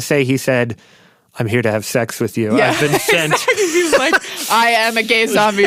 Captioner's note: laughs